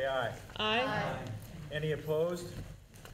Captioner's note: chorus of ayes